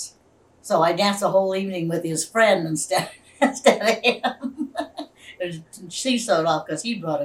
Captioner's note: laughs